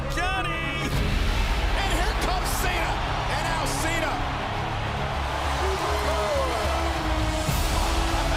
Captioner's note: crowd cheering